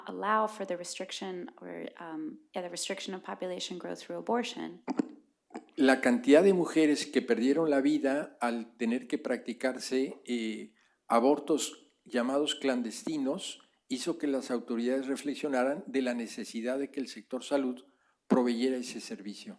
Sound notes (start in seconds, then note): 11.0 speaking spanish